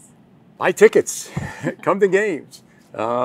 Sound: laughing

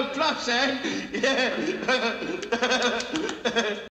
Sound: laughing

